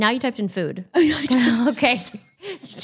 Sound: laughs

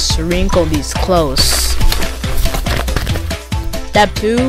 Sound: wrinkling Sounds

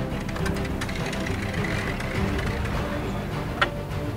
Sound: ATV creaks

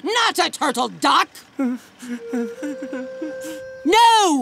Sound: whimpering

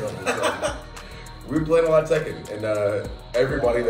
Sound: laugh

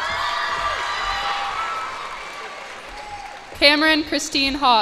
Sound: cheers and applause

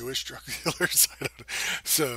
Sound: laughter

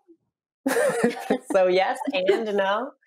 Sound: laughing

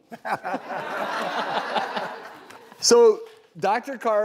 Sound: laughing

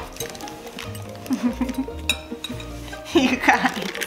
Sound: chuckles

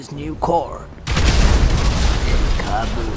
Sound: explosions; explosions continue

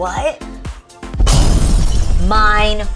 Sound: bomb explodes

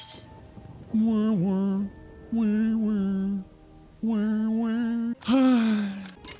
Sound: more music immitation; sigh

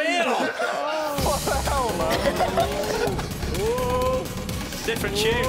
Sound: shouting

